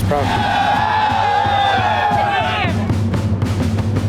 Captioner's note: everyone cheering